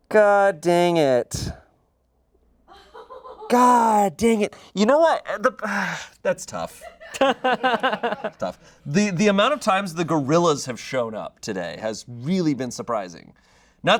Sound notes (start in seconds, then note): 6.8 audience laughing